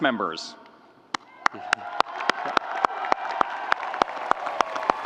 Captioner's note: audience applauding